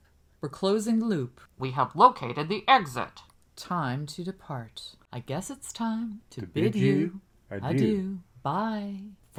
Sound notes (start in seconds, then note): 2.9 silly voice; 5.6 sing-songy